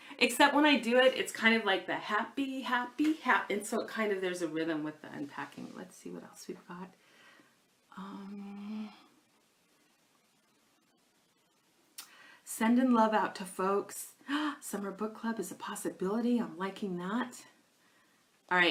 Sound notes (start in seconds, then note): 14.6 gasps